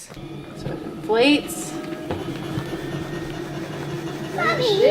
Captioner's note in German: Maschine summt